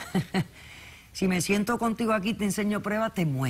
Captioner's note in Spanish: risas